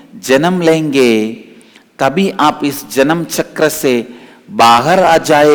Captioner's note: hindi